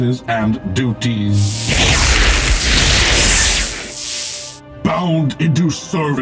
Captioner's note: zzzzaaapppp